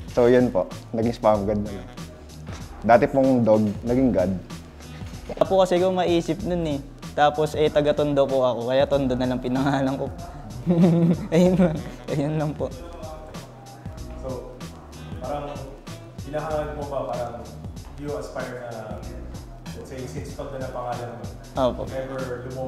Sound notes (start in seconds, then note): 10.4 giggles